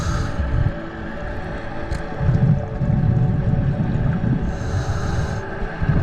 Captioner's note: muffled underwater sounds